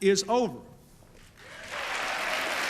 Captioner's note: applause